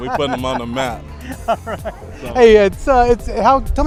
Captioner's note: laughing